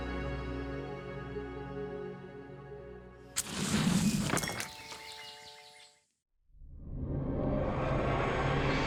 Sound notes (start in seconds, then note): 4.3 birds chirping